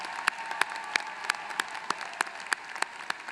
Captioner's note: applause